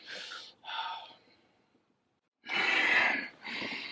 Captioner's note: breathing heavily